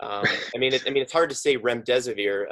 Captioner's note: laughs